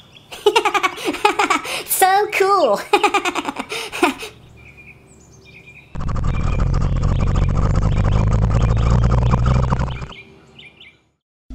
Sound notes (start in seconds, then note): 4.2 birds chirping; 5.9 crane motor hum; 10.2 birds chirping